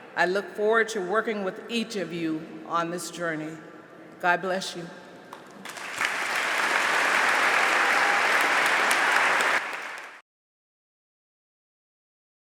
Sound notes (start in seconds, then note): 5.4 applause; 10.0 silence